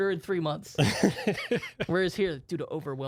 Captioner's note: laughing